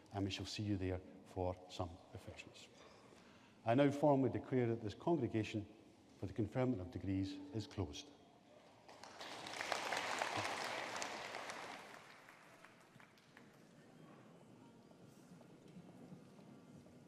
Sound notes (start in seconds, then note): 8.8 audience applauding